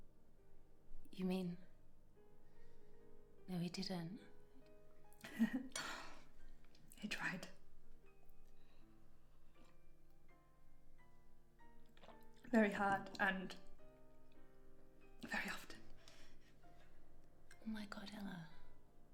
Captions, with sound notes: - You mean? No, he didn't. - Yeah, (laughs softly) he tried. (gentle piano music continues) Very hard and very often. - Oh, my god, Ella.